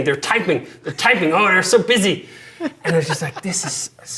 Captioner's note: laughing